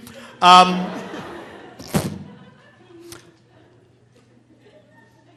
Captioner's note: audience laughing